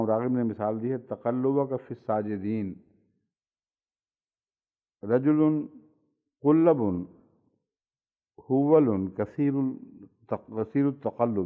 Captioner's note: Arabic